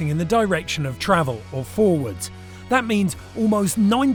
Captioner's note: none